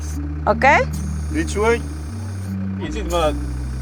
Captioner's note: speaks in foreign language